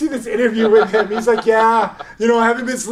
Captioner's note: laughing